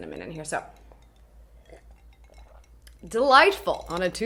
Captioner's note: swallows